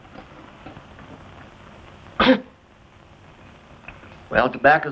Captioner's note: coughing